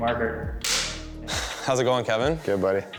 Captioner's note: snapping